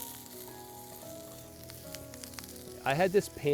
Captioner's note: sizzling